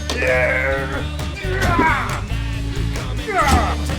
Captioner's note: Mitch grunts; monitor thuds